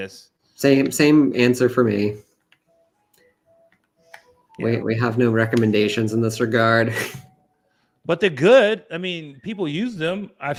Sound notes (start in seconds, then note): 6.9 chuckles